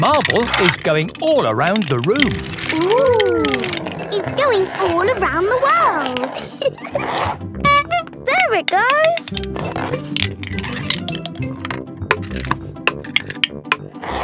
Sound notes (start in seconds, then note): 6.3 giggling; 7.6 honking